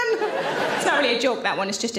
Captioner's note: audience laughs